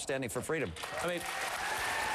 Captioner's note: applause